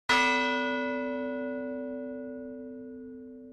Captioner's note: bell tolls